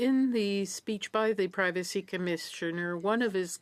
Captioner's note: speaking French